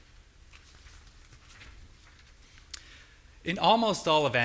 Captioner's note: flipping pages